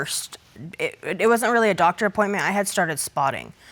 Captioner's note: none